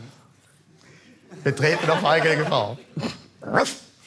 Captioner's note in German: Lachend